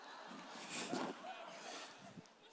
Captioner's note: laughter